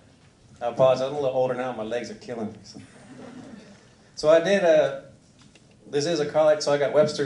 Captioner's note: laughter